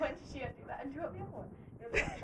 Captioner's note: laughing